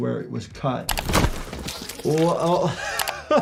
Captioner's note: guts squishing